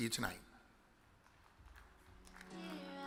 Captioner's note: audience claps